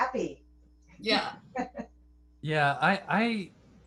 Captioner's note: laughter